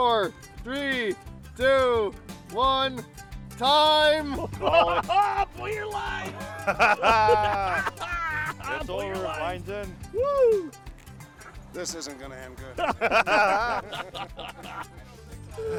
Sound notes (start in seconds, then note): 4.3 laughing; 14.4 laughing